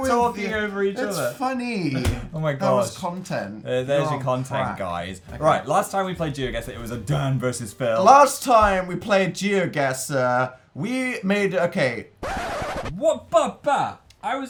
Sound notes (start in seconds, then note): 12.2 rewinding sound effect